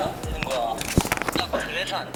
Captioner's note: flap